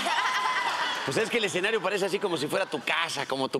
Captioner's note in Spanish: risas